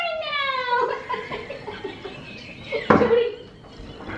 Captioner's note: both laughing